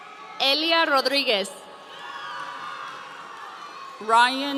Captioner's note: audience cheering